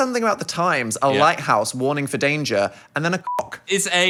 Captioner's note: beep